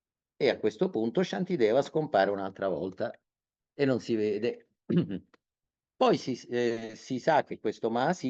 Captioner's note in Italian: schiarire la voce